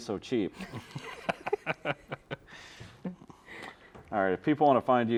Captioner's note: chuckling